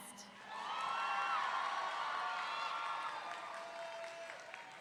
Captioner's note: audience cheering